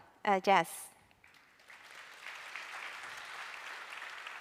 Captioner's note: applause